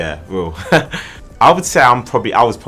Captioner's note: laughs